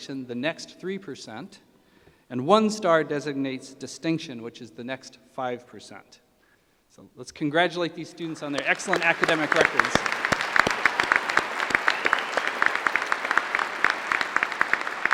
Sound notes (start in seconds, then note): 10.4 applause